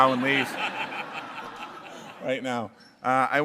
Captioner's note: laughter